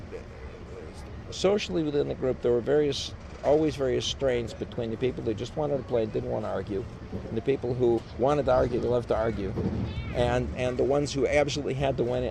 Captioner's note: laughs